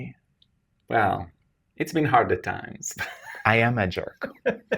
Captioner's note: laughs